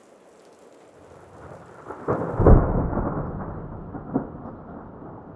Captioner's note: rain pattering; thunder rumbles